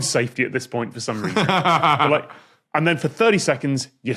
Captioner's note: laughs